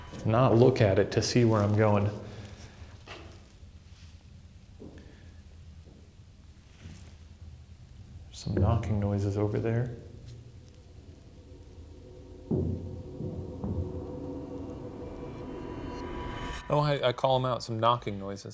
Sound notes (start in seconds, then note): 0.0 tense electronic chiming; 4.8 footsteps thudding; 12.6 heavy knocking; 14.1 tense foreboding music